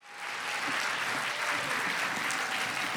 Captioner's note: applause